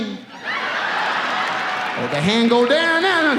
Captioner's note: audience laughs